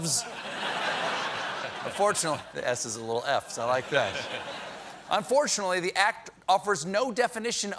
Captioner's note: laughter